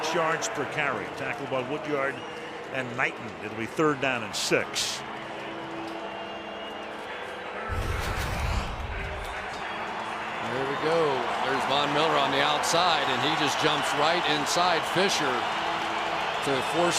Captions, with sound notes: almost 6 yards per carry, tackled by Woodyard and Knighton. It'll be third down and 6. [pa announcement] [cheering] There we go. There's Von Miller on the outside. And he just jumps right inside Fisher